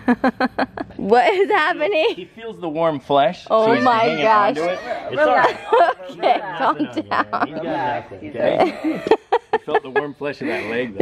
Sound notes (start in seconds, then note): 0.0 laughter; 4.8 laughing; 8.4 laughter